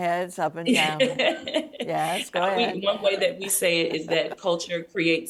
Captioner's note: laughs